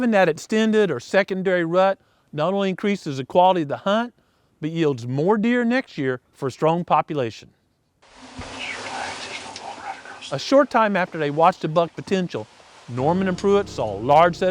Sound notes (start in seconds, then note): 7.4 whispering